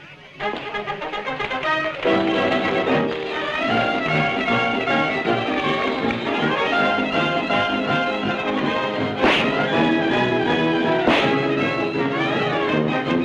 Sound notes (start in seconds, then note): 9.2 whip crack; 11.0 whip crack